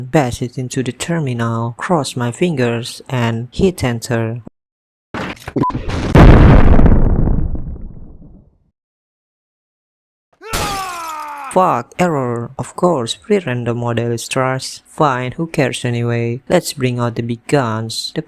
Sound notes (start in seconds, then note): 5.8 nuclear sound